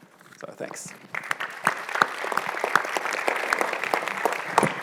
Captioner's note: audience applauds